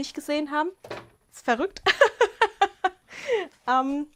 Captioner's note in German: Gelächter